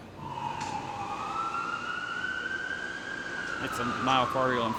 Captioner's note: sirens wailing